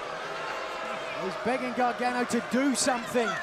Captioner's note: crowd chatter